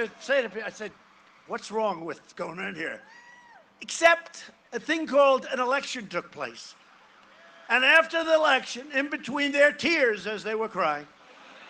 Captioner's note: cheering and applause